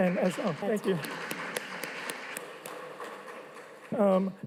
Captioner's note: audience applauding